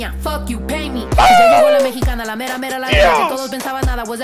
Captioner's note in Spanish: grita